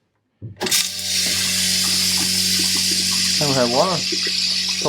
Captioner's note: toilet flushing